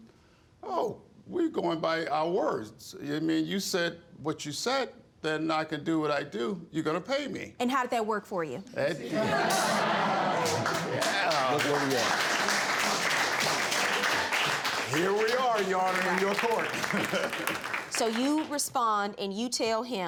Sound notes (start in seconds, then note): 8.3 audience laughs